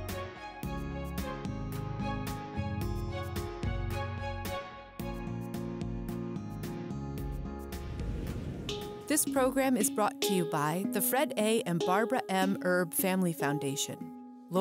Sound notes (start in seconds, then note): 7.7 whooshing